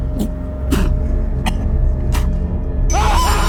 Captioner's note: head slams; Scott spitting and coughing; Scott screams